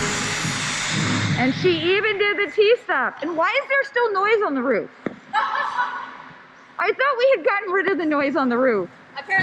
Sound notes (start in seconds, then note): 5.3 laughs